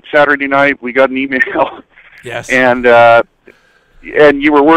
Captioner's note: laughs